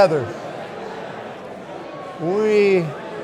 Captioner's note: audience continues indistinctly chattering